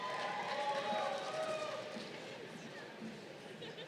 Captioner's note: crowd cheering